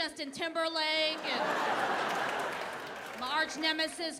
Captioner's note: audience laughing